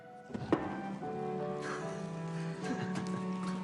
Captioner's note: both laughing excitedly